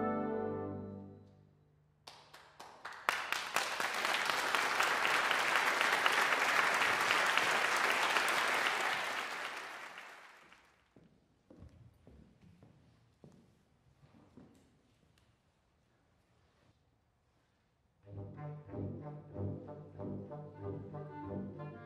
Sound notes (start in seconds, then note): 2.1 audience applause